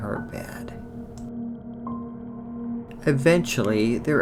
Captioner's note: eerie sound